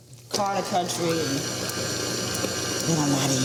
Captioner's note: mixer whirring